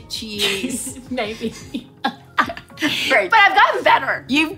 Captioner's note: laughs